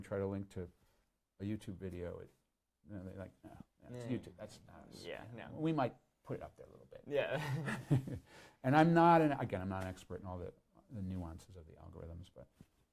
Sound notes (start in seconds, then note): 7.2 laughs